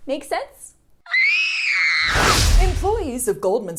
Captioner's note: screams